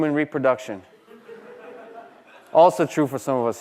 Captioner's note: laughter